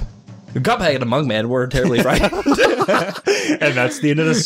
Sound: both start laughing

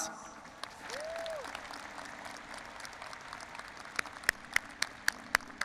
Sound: audience applauding and cheering

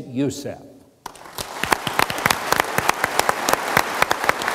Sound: audience applauds

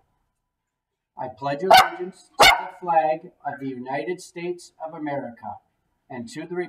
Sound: dog barking

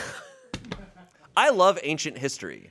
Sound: laughs

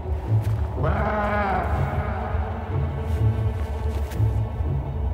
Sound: distant bleating

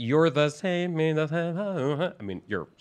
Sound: playfully vocalizing

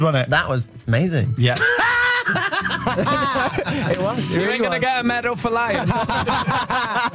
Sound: laughter

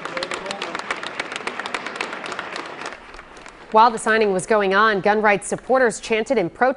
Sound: applause

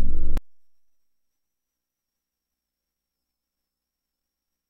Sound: silence

